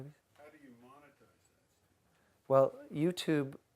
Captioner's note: voiceover